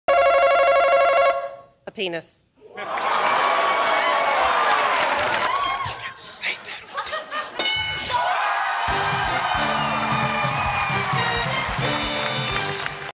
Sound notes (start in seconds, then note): 0.2 buzzer; 2.7 audience laughter; 5.7 whispers; 7.6 ding; 8.0 cheers and applause